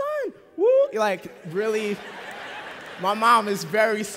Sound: laughter

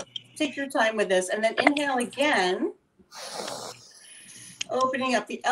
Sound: inhaling

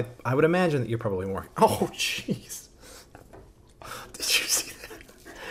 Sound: laughs; dog panting

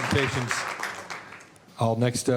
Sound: applause

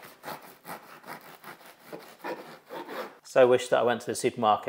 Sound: bread crunching

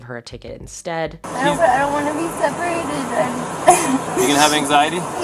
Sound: sobbing

